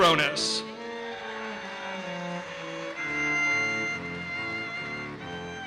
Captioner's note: audience cheers and applauses